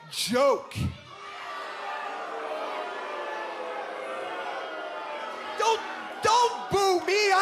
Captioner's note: crowd chatter